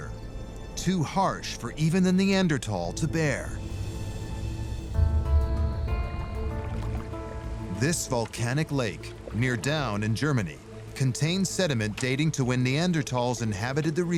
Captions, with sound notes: Too harsh for even the Neanderthal to bear? [suspenseful music] [waves lapping] This volcanic lake near Daun, in Germany, contains sediment dating to when Neanderthals inhabited the region,